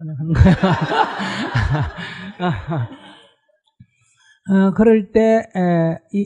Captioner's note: /Audience Laughter